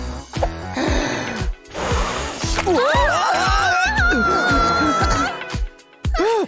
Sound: blows

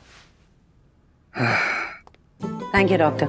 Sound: exhales

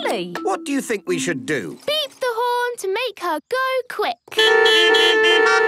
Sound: beeping

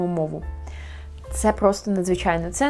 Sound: gasp

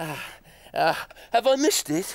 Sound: heavy breathing

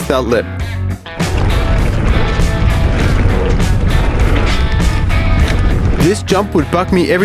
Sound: tires rumbling on the ground

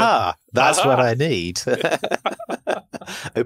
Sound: laughing

